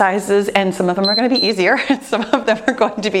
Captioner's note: timer beeps